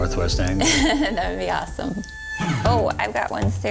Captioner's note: laughs